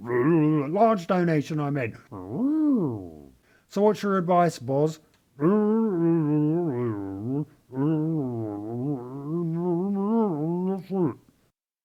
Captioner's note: short disgruntled noises; satisfied noise